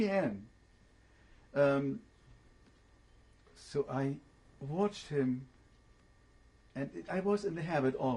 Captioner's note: pauses for 3 seconds